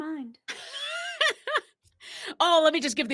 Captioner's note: laughs